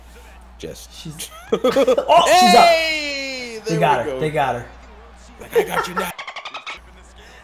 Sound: laugh

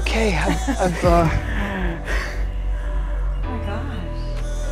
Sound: both laughing

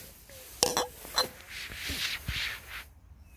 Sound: jars clanking

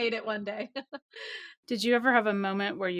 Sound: laughs

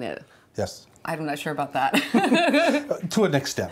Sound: laughing

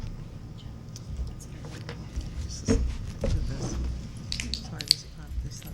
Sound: board members whispering

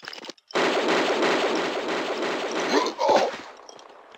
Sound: BAM x7

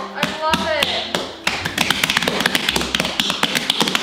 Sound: slapping

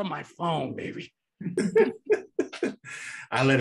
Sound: chuckles

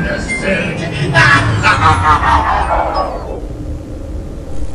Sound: evil Laughter

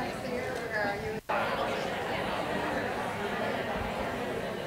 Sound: group chattering

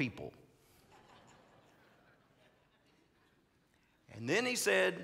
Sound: congregants laughing

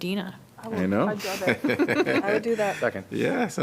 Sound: laughter

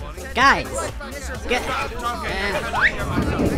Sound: more arguing

